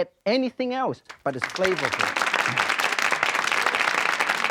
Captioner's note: crowd applaud